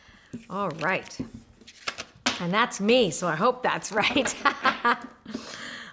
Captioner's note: laughs